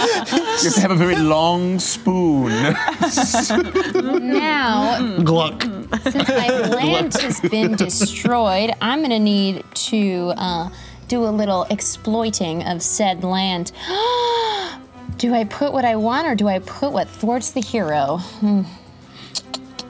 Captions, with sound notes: Just have a very long spoon. Since my land has been destroyed, I'm gonna need to do a little exploiting of said land. (gasps) Do I put what I want or do I put what thwarts the hero?